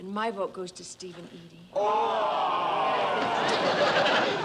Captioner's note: all groan